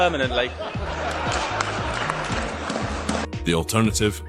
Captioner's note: laughter & Applause